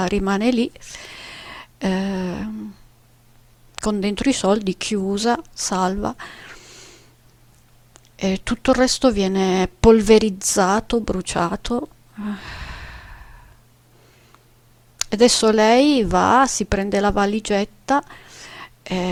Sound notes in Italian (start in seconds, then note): 12.2 sospiri